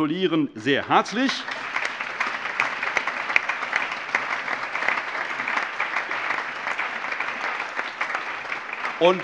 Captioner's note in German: Allgemeiner Beifall